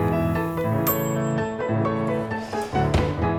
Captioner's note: oven dings